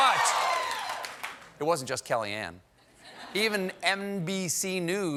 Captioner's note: cheers and applause